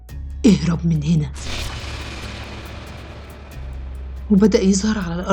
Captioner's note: suspenseful sound